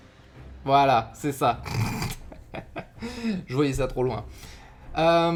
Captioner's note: laught